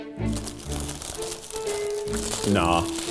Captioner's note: rustling